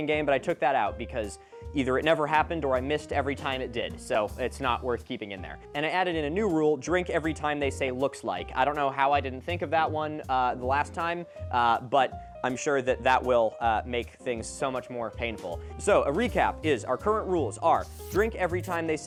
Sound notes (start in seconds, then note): none